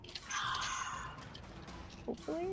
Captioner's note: exhales sharply